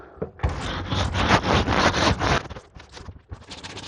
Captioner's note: scraping